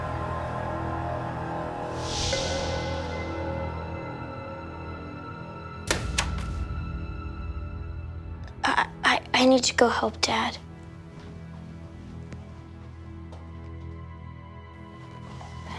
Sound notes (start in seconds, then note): 0.2 eerie music; 5.8 magazine clatters; 13.5 eerie music